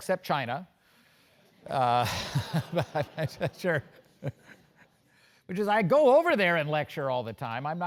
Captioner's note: laugh